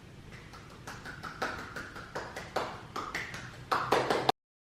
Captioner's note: clapping